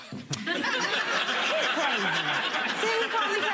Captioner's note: audience laughing